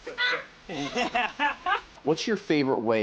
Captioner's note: yells; laughs